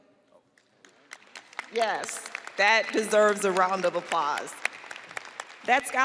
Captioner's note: audience applauding